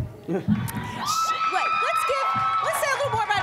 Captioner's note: audience cheers